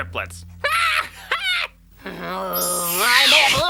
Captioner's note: laughs